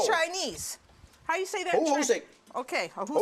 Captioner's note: speaking Chinese